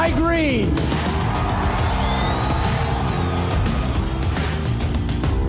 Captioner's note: audience cheering